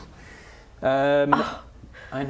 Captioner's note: scoff